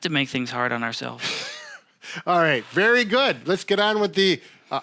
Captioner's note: laughs